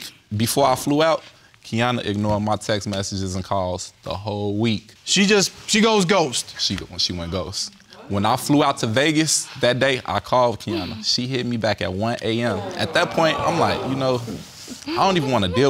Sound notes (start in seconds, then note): 12.4 audience groaning